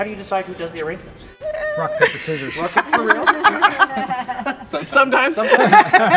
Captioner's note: laugh